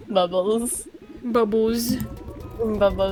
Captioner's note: laughs; bubble noises